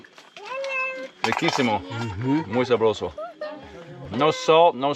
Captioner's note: speaks in foreign language